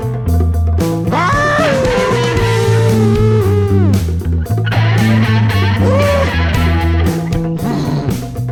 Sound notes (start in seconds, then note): 1.1 Bigfoot continues howling